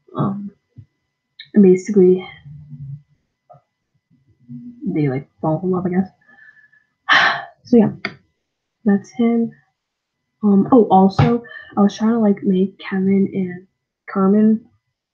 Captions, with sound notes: umm... i mean, basically... they, like, fall in love, i guess... *sharp exhale* so yeah, thats him umm-- oh also, i was tryna, like, make kevin and carmen...